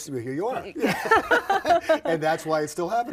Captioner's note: both laugh